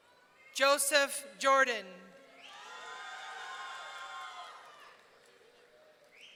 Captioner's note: audience cheering